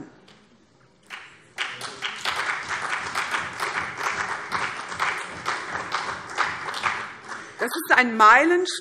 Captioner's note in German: Beifall CDU und BÜNDNIS 90/DIE GRÜNEN